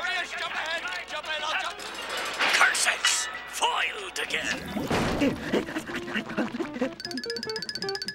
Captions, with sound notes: Jump ahead. Jump in. I'll jump- Curses. Foiled again. [panting]